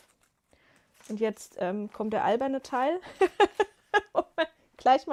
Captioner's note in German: gelächter